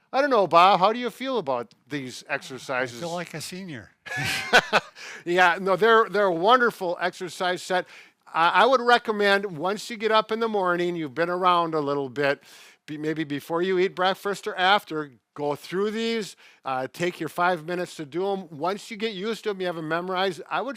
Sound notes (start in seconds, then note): 4.0 laughing